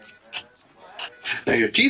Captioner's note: background chatter